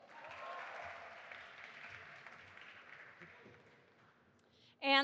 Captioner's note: audience applauding